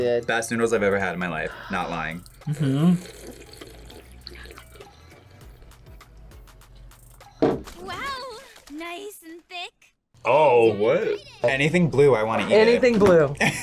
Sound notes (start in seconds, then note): 4.1 slurps